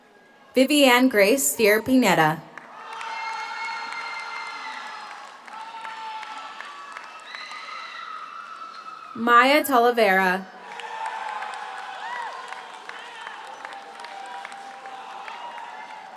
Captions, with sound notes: ViviAnne Grace Steer Pineda. (audience cheers) (audience applauds) Maya Talavera. (audience cheers) (audience applauds)